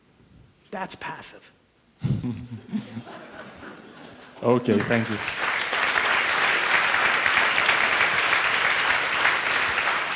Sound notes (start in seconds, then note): 2.0 chuckles; 6.0 audience applauds